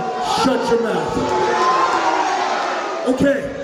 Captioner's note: crowd jeers